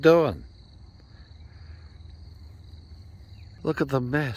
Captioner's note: insects chirring